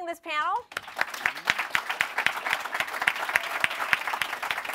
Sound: applause

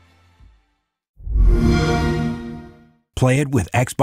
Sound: xbox sound

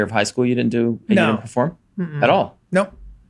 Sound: none

